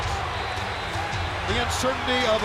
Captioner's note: crowd cheering